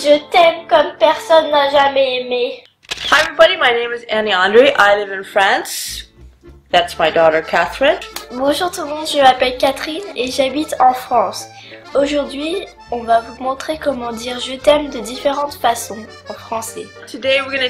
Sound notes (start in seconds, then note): none